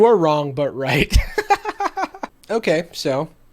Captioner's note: laughing